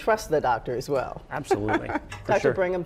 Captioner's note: chuckles